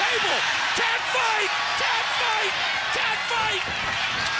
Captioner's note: crowd cheering